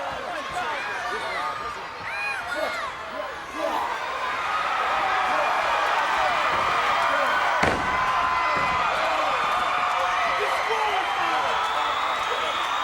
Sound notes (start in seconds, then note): 6.1 crowd cheers